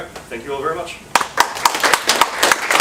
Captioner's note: audience applauds